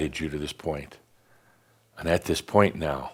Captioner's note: none